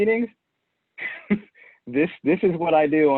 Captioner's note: chuckles